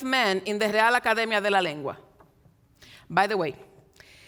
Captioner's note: speaks in Spanish